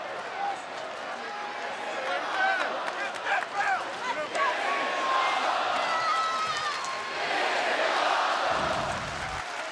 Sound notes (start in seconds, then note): 5.1 audience chanting